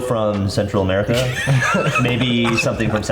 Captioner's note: laughing